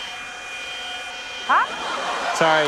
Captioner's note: laughter